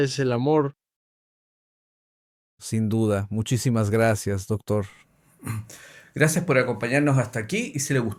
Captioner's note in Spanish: resoplido